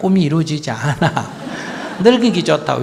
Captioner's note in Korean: 스님과 청중 웃음